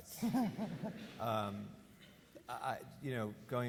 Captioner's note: laughs